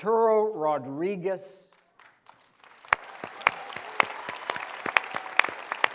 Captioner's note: applause